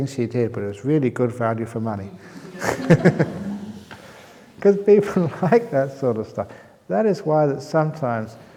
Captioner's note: laughter